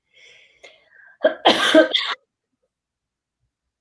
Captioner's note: coughs